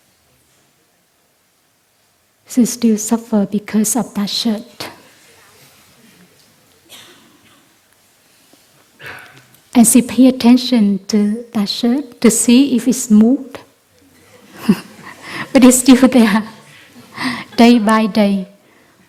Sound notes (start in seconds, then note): 14.2 laughs